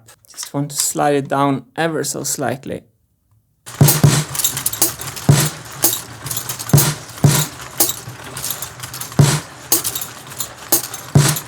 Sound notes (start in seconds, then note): 3.6 drum sounds; 3.6 machine sounds